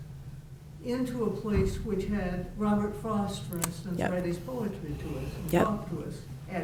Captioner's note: faintly speaking